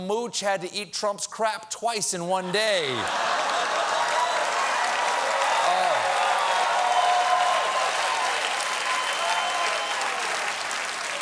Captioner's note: cheers and applause